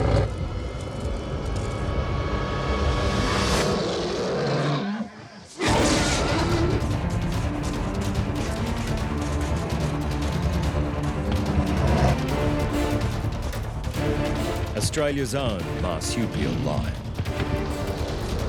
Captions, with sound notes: [animal roaring] [action music] [animal grunts] Australians own Marsupial lion.